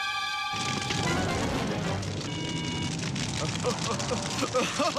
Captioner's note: gleeful laughing